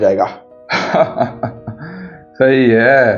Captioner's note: laughs